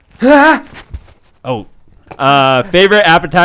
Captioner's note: groans awkwardly